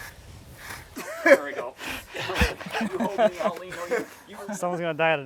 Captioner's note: everyone laughs